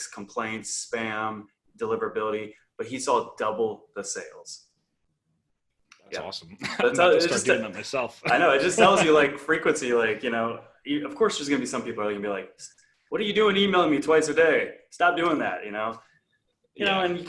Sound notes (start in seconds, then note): 7.0 speaking faintly